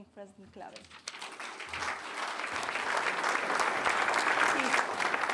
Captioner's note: applause